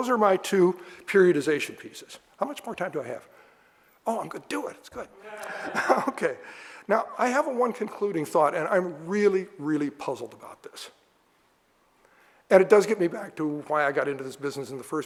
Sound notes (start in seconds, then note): 5.2 audience laughter